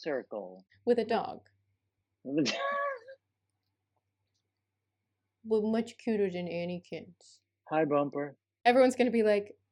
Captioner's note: baby voice